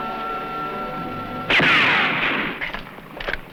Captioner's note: gunshot